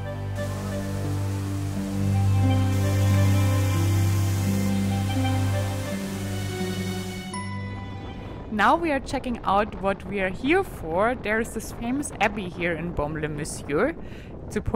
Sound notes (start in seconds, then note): 0.2 gentle music; 2.9 waterfall splashing